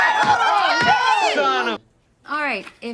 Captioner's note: all scream and groan